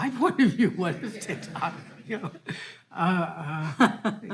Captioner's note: all laughing